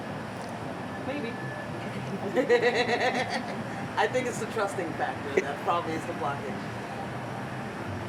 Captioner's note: laughs